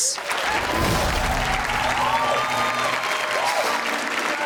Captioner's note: audience cheers